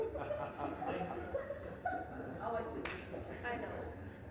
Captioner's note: audience laughing